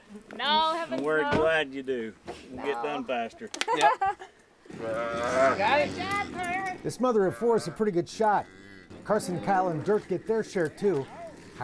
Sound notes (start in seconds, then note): 3.6 laughs